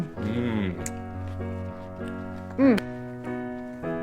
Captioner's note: chef's kiss sound